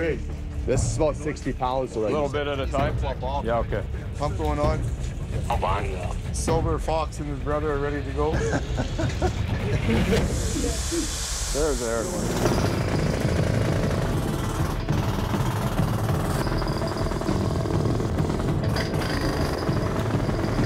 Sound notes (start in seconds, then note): 5.0 man on radio; 8.2 chuckles; 9.9 air hissing; 12.3 whirring; 15.7 dramatic music playing